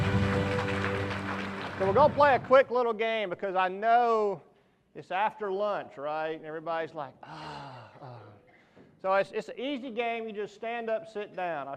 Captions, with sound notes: (applause) - So we're gonna play a quick little game because I know it's after lunch, right? Everybody's like (groans) It's an easy game, you just stand up and sit down.